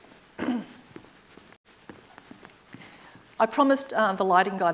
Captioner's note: footsteps plodding